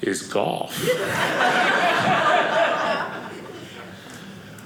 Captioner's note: audience laughing